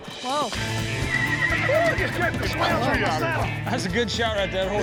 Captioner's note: horse bucking, neighing